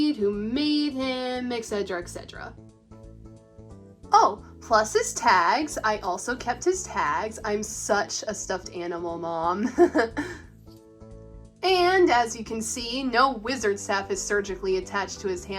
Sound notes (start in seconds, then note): 9.7 laughs